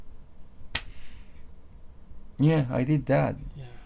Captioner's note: claps